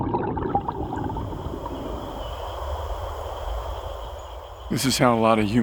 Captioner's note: calmly flowing water